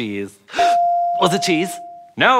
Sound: ding

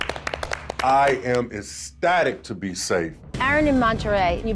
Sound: applause

